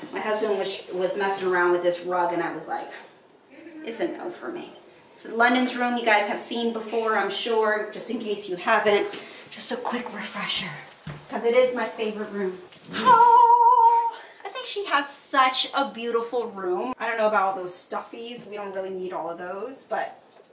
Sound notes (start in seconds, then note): 13.0 hums